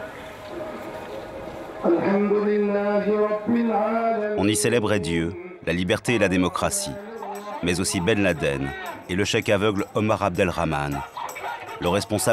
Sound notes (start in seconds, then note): 1.7 prayers